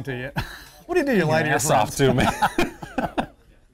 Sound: laughter

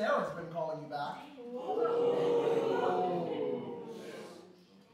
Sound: audience oohs

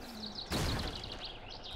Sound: crash

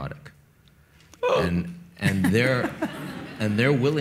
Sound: Kevin gasps; audience laughs

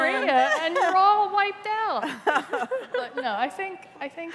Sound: laughter

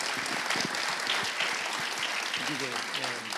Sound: applause

